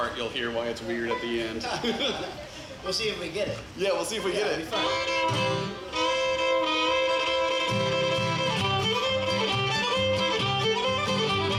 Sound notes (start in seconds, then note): 1.4 band laughs; 4.3 fiddle music